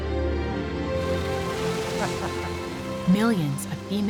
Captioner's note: chuckling